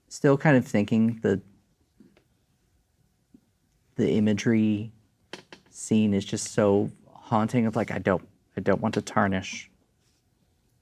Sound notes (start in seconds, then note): none